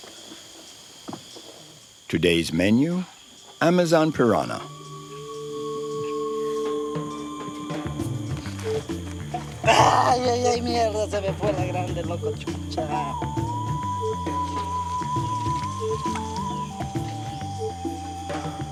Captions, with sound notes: Today's menu, Amazon piranha. [Foreign spoken audio]